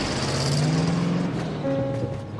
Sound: engine revving

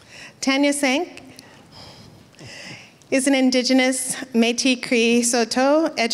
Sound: foreign speaking

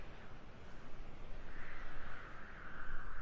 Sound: gusting wind

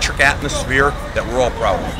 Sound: whistle blows

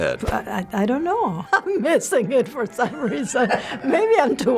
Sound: laughing

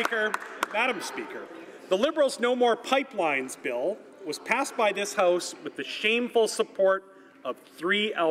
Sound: some Applause

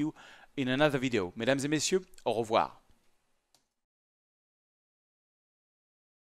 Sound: speaks in foreign language

